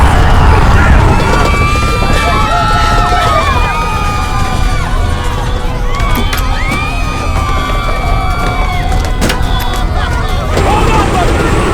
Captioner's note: screaming; crying/screaming; dan screaming